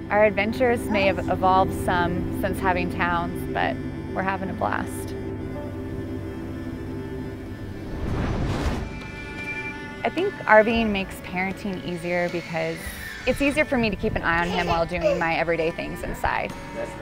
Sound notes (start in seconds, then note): 5.5 soft dramatic music; 7.7 dramatic whooshing